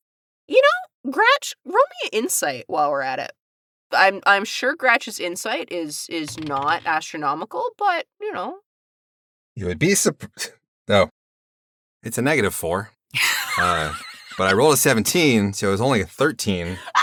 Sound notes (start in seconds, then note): 13.2 laughs; 16.5 laughs